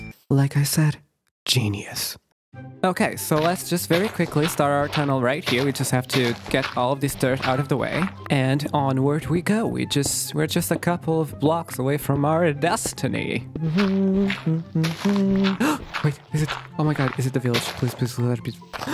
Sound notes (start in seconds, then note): 13.6 hums in pain; 18.7 gasp